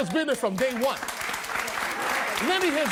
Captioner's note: audience applauding